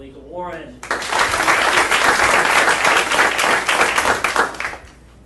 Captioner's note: audience applauding